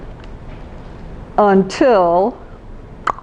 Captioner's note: clop clop clop